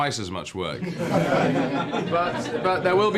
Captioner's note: everyone laughs